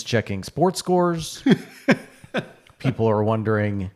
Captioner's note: laughing